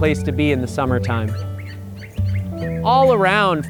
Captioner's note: birds chirping